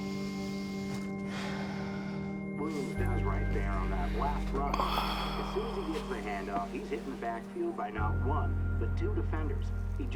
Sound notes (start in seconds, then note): 2.7 Drew sighing over muffled sportscaster dialog